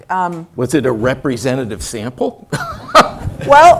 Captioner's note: laugh